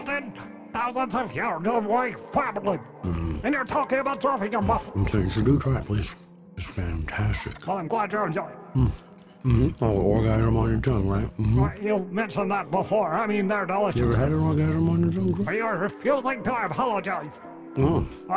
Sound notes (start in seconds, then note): 8.5 talks with mouth full